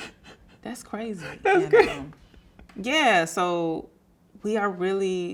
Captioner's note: laughing